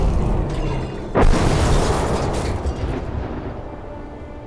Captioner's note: crash